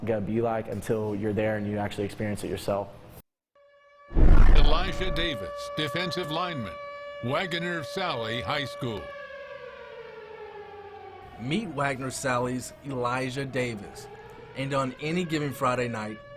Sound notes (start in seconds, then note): 11.1 siren wailing